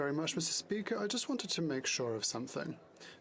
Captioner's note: speaking French